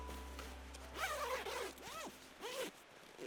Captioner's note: tent zipping